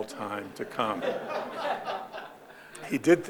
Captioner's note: audience laughing